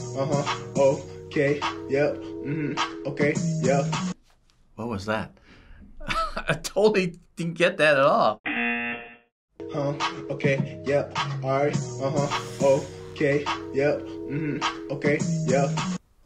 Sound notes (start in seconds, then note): 6.0 chuckles; 8.4 buzzer